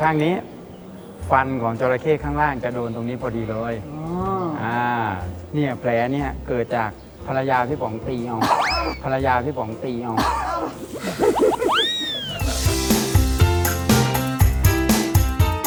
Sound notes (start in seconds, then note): 10.2 laughter